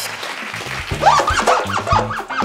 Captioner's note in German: Applaus